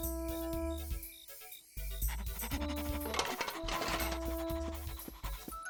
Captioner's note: panting; clattering